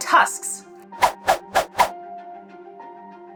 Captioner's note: background music; sound effects; background music